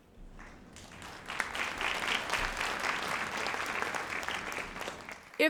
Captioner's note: audience applauds